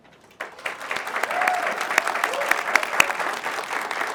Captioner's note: crowd claps